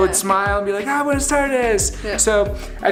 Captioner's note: speaking foreign language